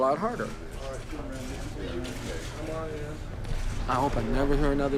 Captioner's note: background talking